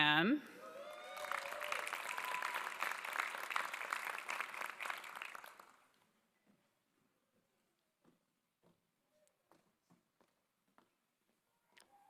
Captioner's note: applause